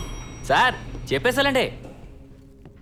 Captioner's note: door dings